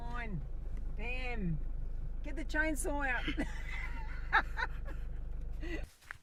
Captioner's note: laughter